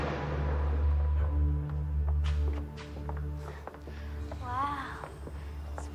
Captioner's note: footsteps clacking